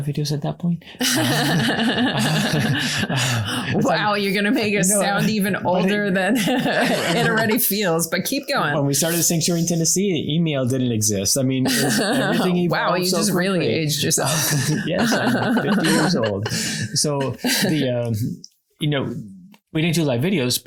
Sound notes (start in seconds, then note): 1.0 laughing; 14.2 more laughing